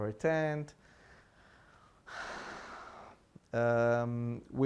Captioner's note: sighing